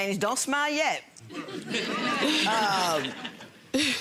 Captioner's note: audience laughs